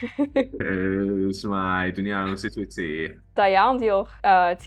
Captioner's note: in Welsh